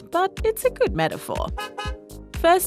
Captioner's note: honk-honk!